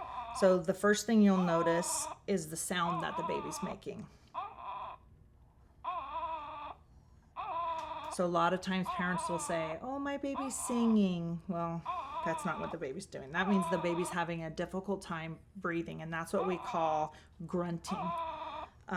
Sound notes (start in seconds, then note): 7.3 baby mannequin whines with respiratory distress